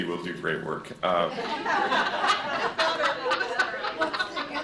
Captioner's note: laughter